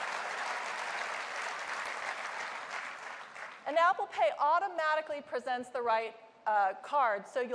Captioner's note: applause